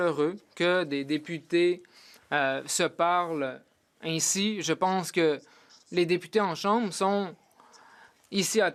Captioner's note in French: voix de l'interprète